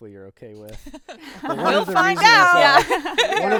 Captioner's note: group laughing